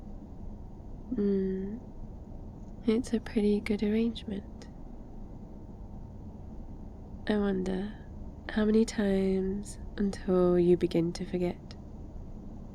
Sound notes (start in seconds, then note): none